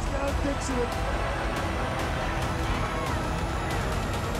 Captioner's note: cheering